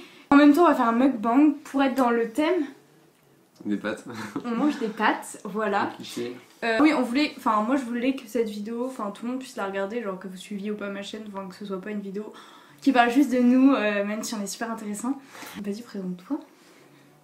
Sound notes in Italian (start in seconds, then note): 15.6 ironia